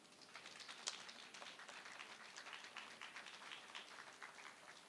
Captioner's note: applause